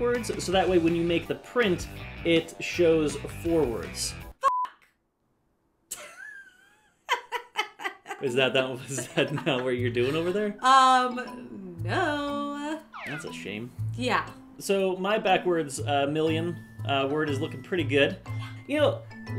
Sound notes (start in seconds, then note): 5.9 laughter